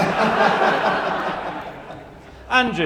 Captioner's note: laughter